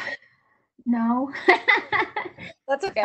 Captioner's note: laughs